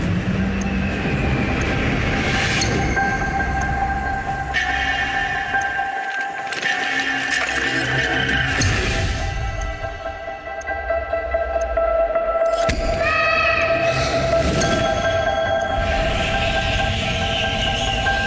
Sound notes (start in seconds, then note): 12.5 shouts echoing